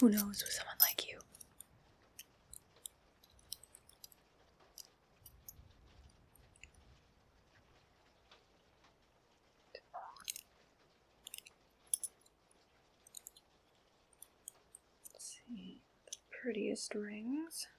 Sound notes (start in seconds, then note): 3.6 rings clinking